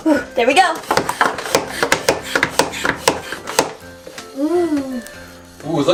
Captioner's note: pumping sound